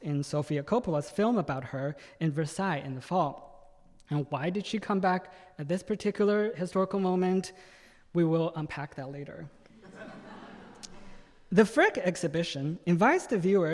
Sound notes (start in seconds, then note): 9.8 audience laughing